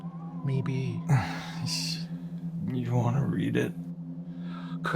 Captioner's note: scoffs